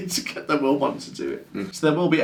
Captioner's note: laughing